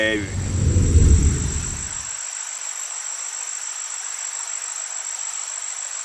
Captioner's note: water running; swooshing